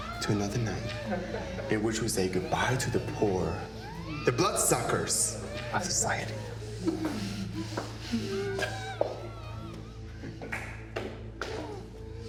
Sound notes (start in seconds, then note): 7.0 victims groaning